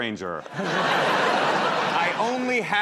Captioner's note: laughter